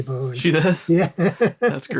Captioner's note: laughs